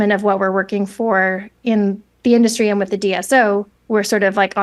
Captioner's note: none